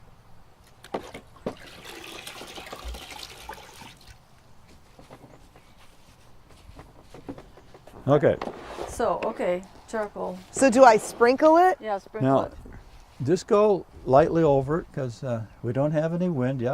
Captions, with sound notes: (rinsing) (sponge dabbing) - So okay, charcoal. - So do I sprinkle it? - No. - Yeah, sprinkle it. - Just go lightly over it, 'cause we don't have any wind.